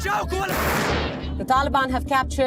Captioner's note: rocket fires